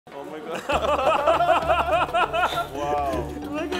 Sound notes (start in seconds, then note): 0.6 laughing